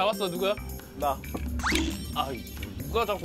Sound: spanks

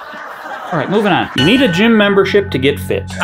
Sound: audience laughing; chime sounding

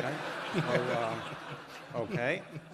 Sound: laughter

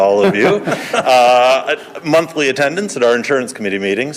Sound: crowd laughs

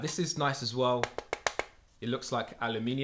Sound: fingers rapping

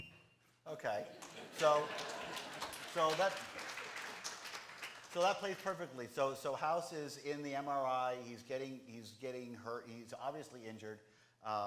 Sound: applause

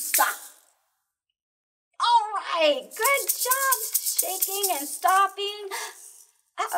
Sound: excited

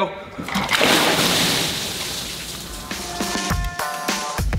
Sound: water splashing; upbeat guitar and drums

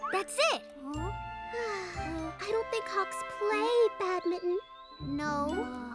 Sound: sighs

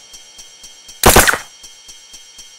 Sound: suppressed Gunshots

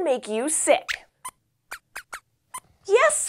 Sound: squeaks squeaks

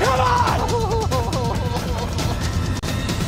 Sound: crying

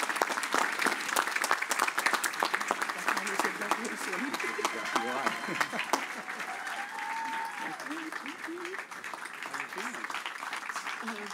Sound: cheers and applause

